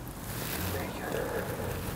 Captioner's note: whispering